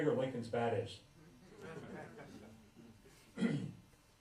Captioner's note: laughter